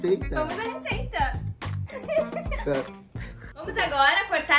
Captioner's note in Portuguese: risos